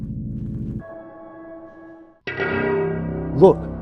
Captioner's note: ding; voiceover